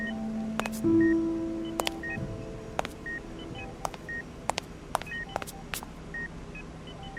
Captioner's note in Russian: шаги